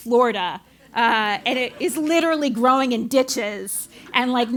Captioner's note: laugh